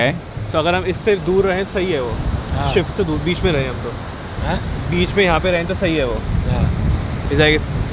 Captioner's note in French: Langue locale